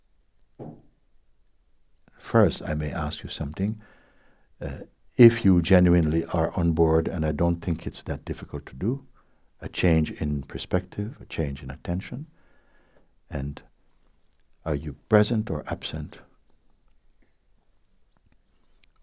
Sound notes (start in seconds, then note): none